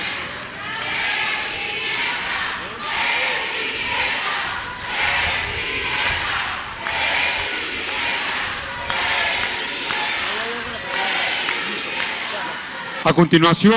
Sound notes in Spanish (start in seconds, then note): 2.1 aplausos